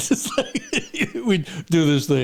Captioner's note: laughing